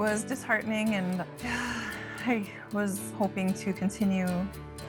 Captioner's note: sighs